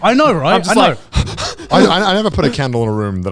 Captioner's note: panting